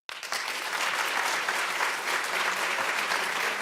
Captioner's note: audience clapping